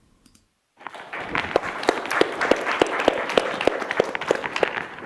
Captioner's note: applause